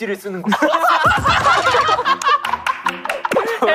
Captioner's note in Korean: 박장대소